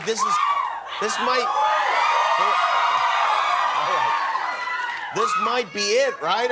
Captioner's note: cheering